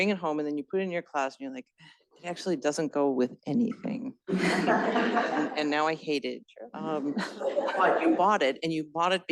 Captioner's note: laughter